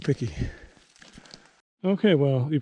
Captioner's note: bush rustling